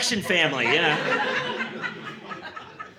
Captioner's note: laughter